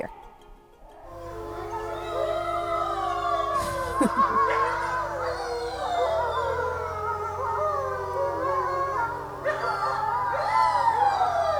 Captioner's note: wolves howling